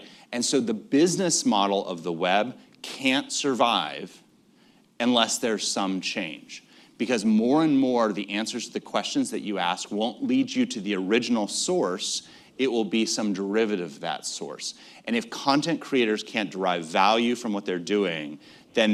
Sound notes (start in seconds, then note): none